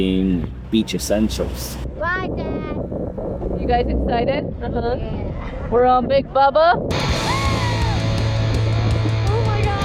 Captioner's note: screaming